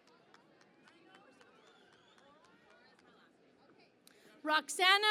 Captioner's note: cheering and Applause